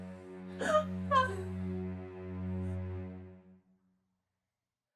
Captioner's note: Kathryn whimpers